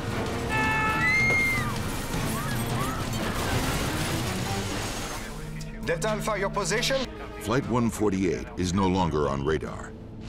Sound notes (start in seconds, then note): 0.4 passengers screaming